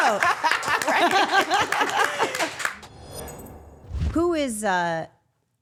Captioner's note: everyone clapping and laughing